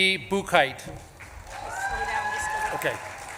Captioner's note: audience claps and cheers